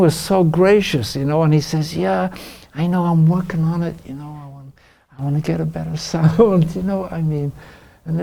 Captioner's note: laughs